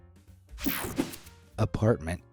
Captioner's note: screen whooshing